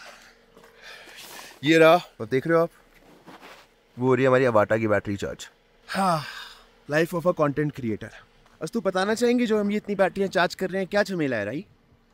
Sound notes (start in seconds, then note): 5.9 sigh